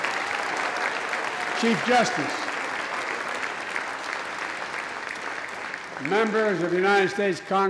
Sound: applause

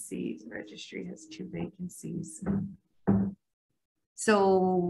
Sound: table banging

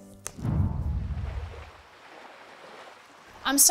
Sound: sea water crashing sound

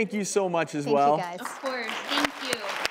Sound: applause

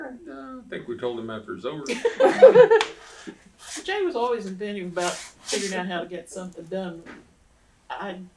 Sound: laughter

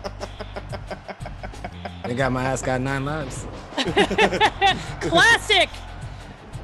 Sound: laugh; laugh

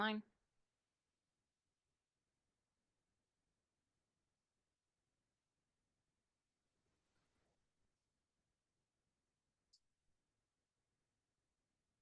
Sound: silence

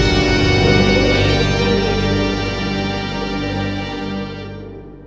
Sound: wind howls

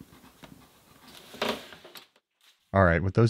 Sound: table squeaks

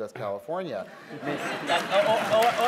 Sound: laughter & applause

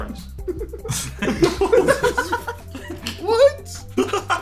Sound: everyone laughing

